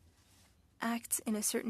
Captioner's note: speaking French